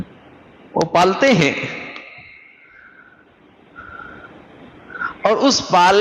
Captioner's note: sigh